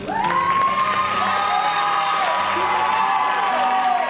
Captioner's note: cheering